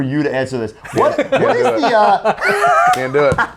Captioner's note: laugh